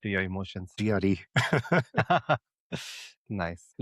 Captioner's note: laughs